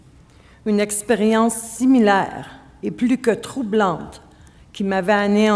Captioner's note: speaking French